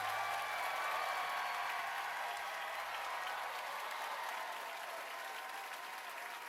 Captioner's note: cheers and applause